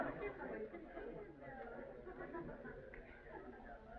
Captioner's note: whispers